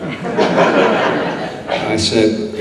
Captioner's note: audience laughs